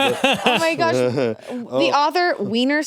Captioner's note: laughs